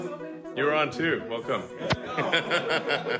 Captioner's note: laughs